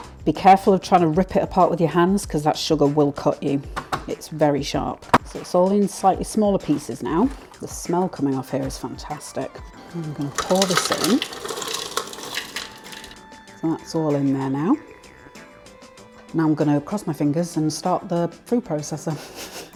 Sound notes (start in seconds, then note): 13.3 rustling/clicking